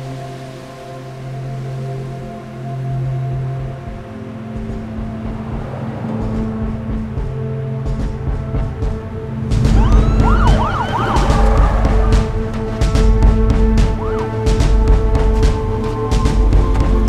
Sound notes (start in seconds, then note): 4.4 traffic whirs; 6.3 dramatic music; 9.6 siren blares; 13.1 dramatic music intensifies